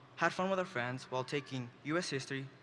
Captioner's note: none